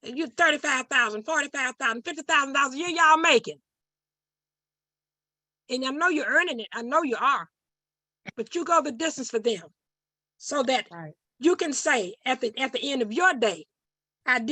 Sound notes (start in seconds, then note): none